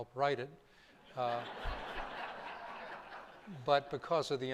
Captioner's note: laughter